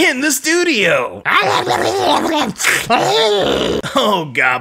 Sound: goblin noises

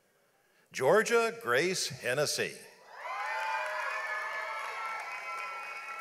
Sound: audience applauds

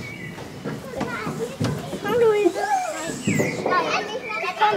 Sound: birds chirping, children's voices

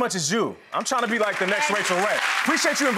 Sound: clapping

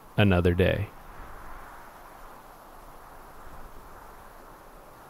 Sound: wind blowing

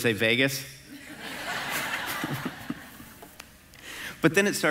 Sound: congregation laughing

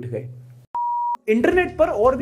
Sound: beep

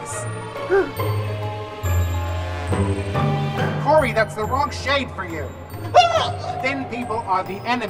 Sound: gasp!

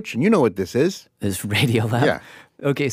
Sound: laughs

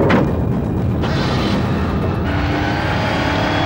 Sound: car engine starts

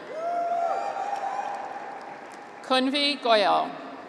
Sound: graduates cheer

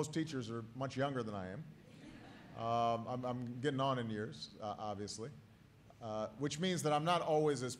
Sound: laughter

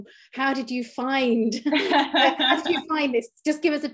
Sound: both laughing

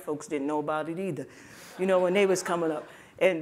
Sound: laughter

